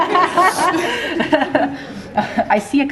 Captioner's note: audience laughs